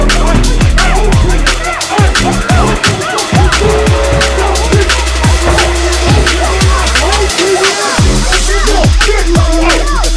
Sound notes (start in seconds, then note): 6.7 shouting continues